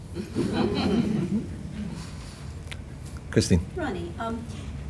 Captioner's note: laughter